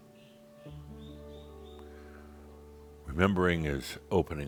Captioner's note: longer pause